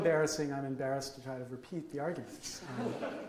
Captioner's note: audience laughs